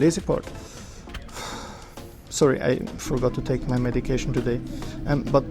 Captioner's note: sigh